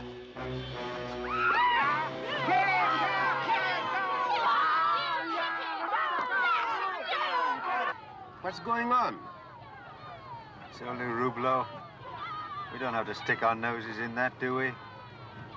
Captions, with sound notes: [crowd screams] [yelling] Kick him! What's going on? - It's only Roublot. - [yelling continues] We don't have to stick our noses in that, do we?